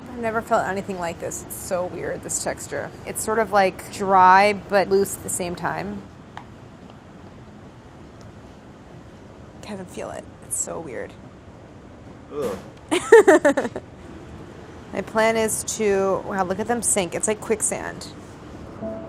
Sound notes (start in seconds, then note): 12.9 laughs